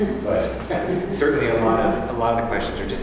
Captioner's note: laugh